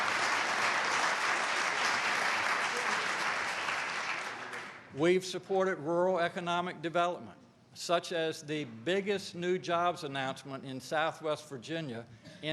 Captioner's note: applause